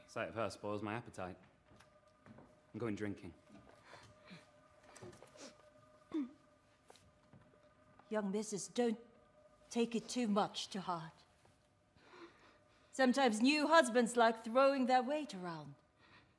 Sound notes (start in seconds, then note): 4.5 yinzhang sobs